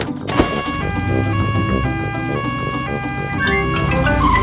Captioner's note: siren wails